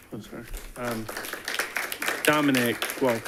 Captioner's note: audience applauding